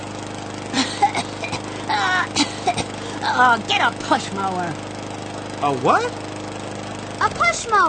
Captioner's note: coughing; lawnmower stops